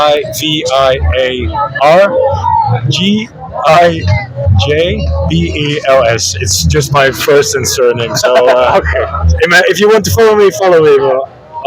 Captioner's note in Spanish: risas